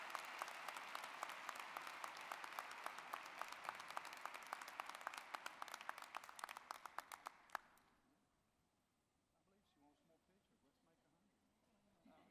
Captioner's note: applause